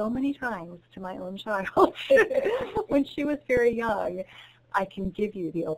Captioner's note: chuckles